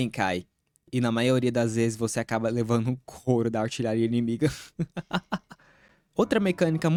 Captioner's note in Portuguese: risos